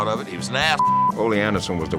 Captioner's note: beeps